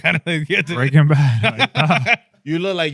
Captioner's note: laughing